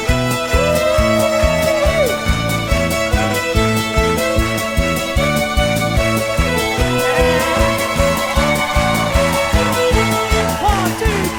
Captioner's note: cheers; applause